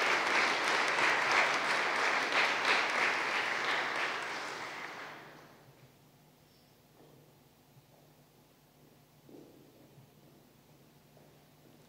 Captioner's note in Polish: oklaski